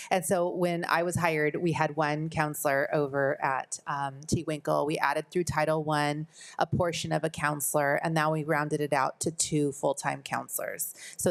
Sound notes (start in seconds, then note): none